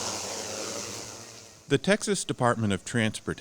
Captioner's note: drone whirring